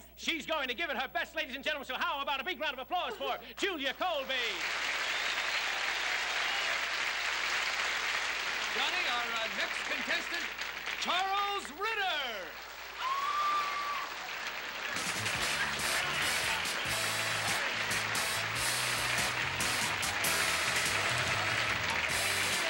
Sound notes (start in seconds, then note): 4.9 applause; 8.9 announcer, over applause; 12.6 applause, cheers